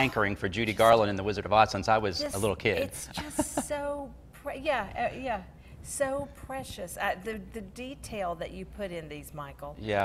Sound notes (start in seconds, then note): 2.9 laughs